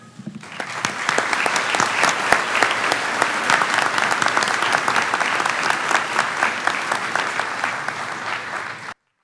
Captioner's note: clapping